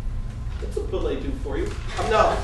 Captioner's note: french